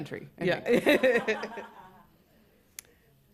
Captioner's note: laughter